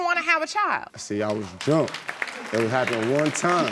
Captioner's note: audience applauding